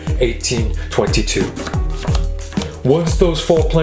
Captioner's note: cards flapping